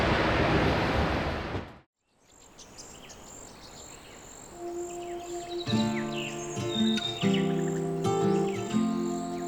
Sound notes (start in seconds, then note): 2.0 birds chirping; 6.1 gentle guitar music